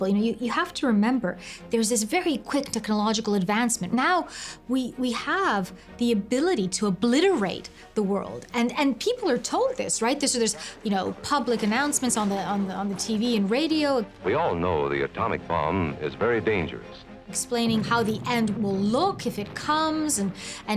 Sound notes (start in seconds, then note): 14.2 radio voice